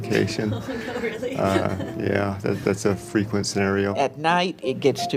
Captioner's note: laughs